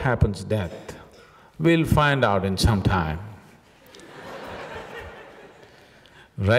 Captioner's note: laughter